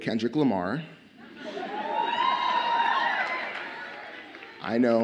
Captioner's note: audience cheers